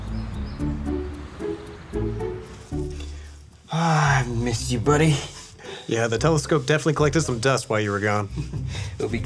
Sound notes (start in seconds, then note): 3.6 sighs